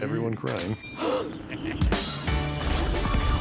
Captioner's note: gasps